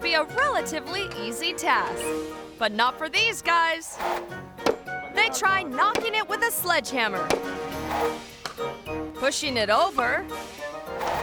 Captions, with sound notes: a relatively easy task, but not for these guys. (sledgehammer thumping) They try knocking it with a sledgehammer, pushing it over,